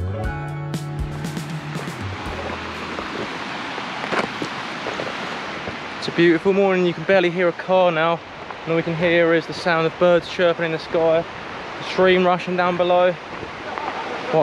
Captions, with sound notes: (water babbling) It's a beautiful morning and you can barely hear a car now. And all we can hear is the sound of birds chirping in the sky. Stream rushing down below.